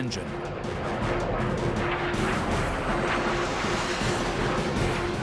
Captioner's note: engines blaring